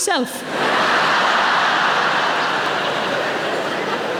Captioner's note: audience laughing